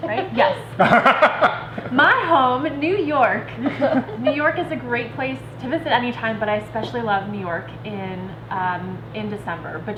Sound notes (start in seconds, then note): 0.1 laughing